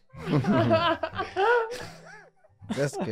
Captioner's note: group laughing